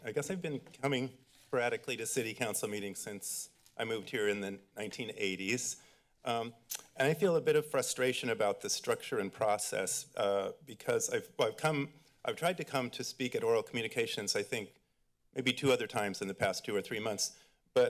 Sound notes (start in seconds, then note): 6.7 clicks tongue